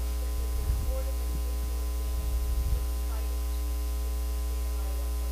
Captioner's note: speaking faintly